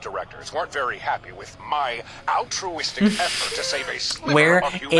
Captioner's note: laughs